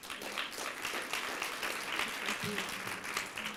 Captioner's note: applause